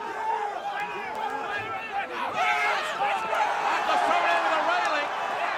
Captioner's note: audience shouting